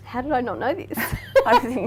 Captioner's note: laughing